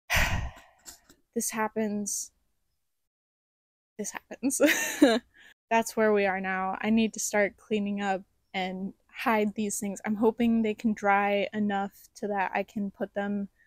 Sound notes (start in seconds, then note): 4.6 laughter